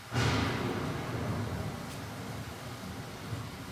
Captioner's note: thunder rumbling